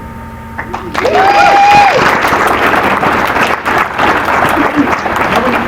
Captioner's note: applause